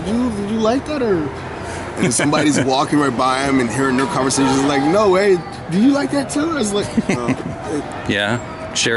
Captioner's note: imitating someone else talking; imitating someone else talking